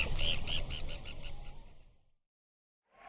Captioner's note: bird tweeting